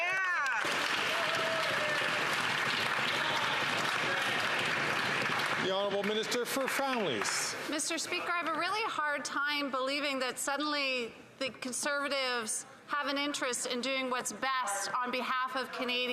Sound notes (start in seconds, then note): 7.1 some Applause